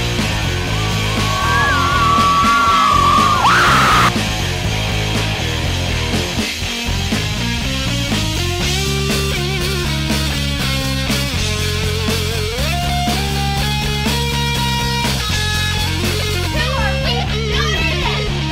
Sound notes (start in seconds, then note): 0.6 screaming